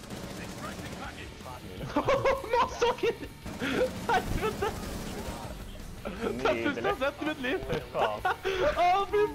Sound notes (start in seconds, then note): 1.8 laughter